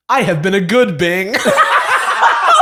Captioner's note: laughter